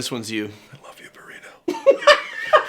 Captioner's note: whispers